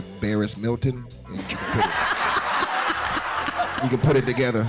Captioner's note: laughing